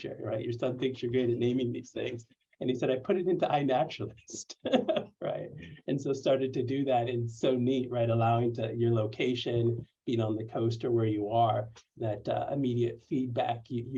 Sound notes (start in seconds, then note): 4.5 laughter